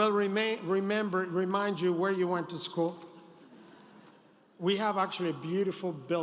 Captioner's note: laughter